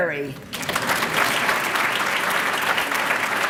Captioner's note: applause